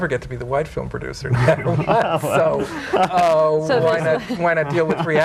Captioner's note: group laughing